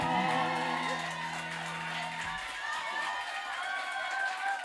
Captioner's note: applause